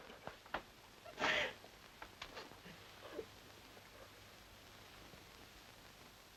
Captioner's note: mother sobbing